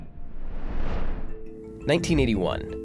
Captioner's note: swooping